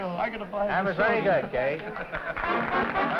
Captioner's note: chatter; applause